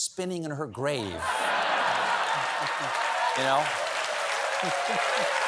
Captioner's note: laughter